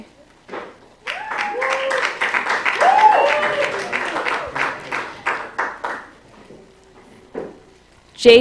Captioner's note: applause